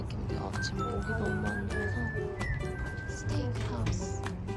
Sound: gravely voice t_t

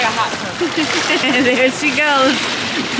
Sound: laughs

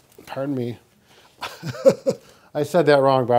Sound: laughs

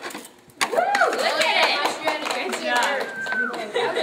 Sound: all cheering

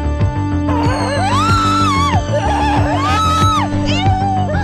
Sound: Anna Screaming

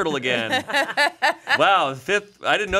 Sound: everyone laughs

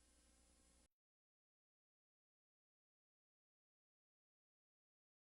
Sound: silence

